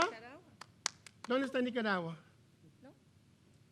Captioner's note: speaking in foreign language